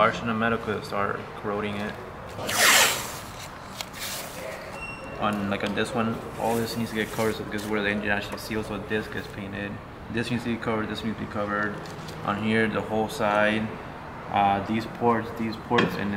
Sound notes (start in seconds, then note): 2.3 tape unrolling